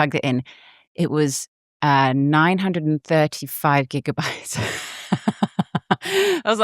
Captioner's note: laughs